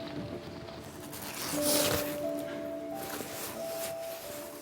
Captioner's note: jacket rustling